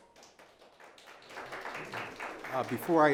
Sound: audience applauding

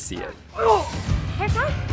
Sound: grunting

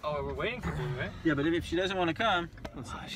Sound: puke

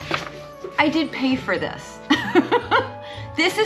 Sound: laughs

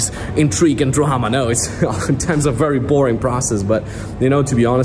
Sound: chuckling

